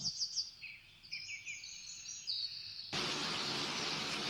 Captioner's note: birds chirping; rain